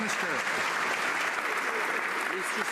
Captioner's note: some Applause